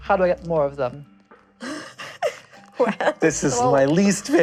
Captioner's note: tiny sinister laughter